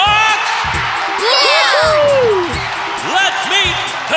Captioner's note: cheering